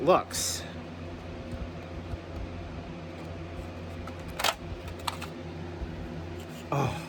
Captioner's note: normal voice; lid opens